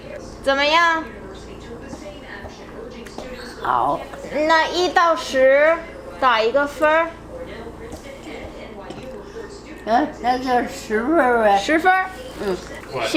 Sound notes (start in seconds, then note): 3.6 grandma speaking Chinese; 4.5 speaking Chinese; 9.9 grandma speaking Chinese; 11.6 speaking Chinese